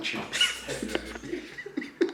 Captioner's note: laugh